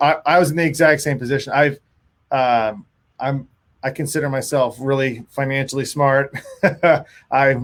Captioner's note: giggling